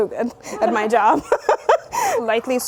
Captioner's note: laughing